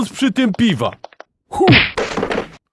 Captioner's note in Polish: uderzenie